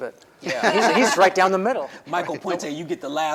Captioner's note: everybody laughs